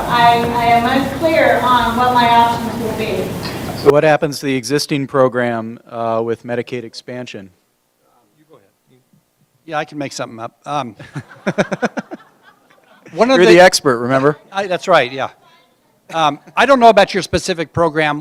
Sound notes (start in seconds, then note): 11.0 laughter